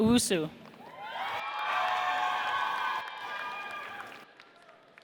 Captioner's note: audience cheers